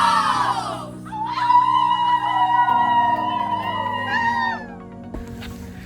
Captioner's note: howling